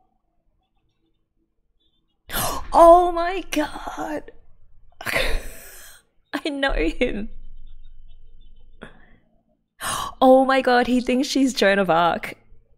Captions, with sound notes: [gasps] Oh my god!! [disbelieving laugh] I know him! Oh my god, he thinks she's Joan of Arc.